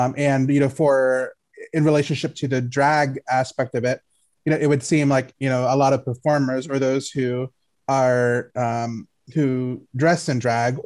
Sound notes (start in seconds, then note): none